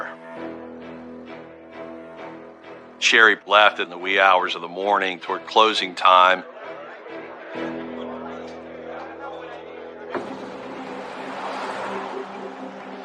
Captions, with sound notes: the last time that they saw her. - Sherry left in the wee hours of the morning toward closing time. [indistinct chatter] [tense music]